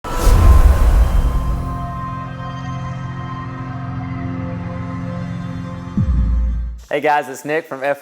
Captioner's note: sound effect